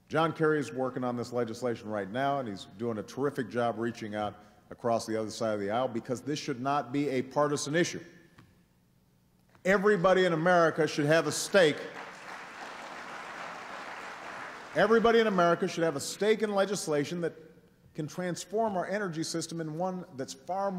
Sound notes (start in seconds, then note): 11.3 applause